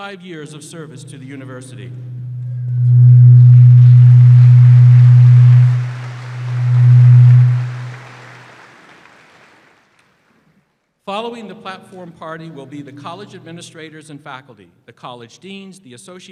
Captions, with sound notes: WHICH IS CARRIED BY DR. DEBBIE DAVENPORT WHO IS RETIRING THIS MONTH AFTER 35 YEARS OF SERVICE TO THE UNIVERSITY.[ APPLAUSE ]